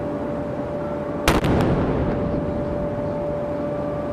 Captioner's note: cannon firing